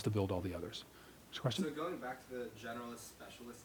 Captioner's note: voiceover